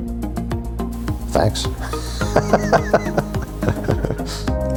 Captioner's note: laughing